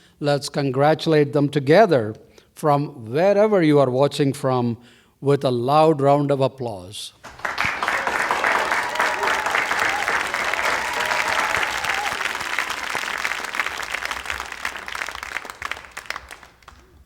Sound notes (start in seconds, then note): 7.6 applause